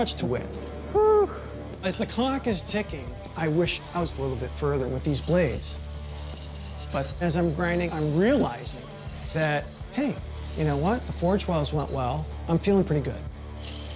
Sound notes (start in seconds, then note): none